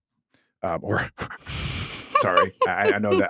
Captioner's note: laughing